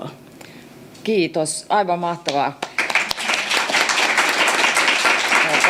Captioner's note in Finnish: aplodeja